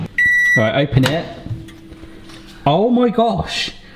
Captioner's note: microwave beeps